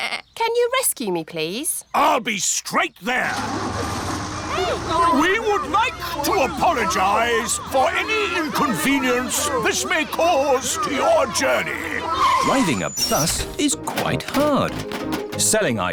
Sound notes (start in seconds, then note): 0.1 bleats; 5.1 all grumble